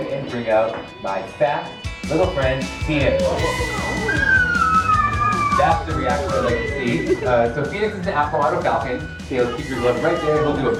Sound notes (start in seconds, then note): 2.8 crowd gasps; 3.0 screams